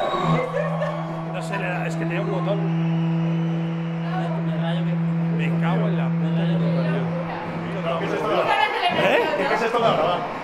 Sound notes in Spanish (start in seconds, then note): 3.0 Zumbido